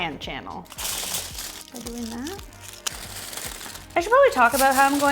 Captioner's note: foil crackling